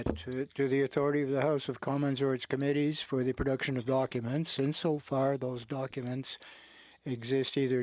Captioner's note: speaking French